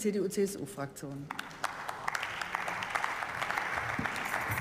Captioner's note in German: Beifall